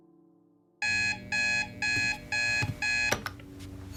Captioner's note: alarm beeping